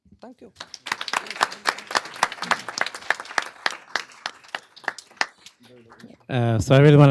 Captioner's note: applause